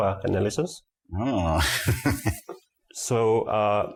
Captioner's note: laughing vigorously